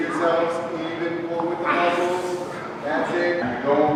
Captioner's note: grunts